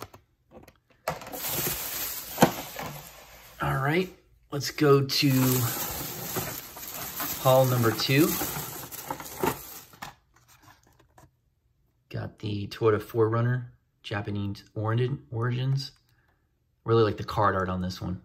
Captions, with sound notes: all right let's go to [bag crinkles] Haul number two got the toyota 4runner japan origins i really like the card art on this one